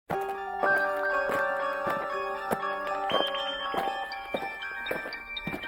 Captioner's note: aliens marching; eerie music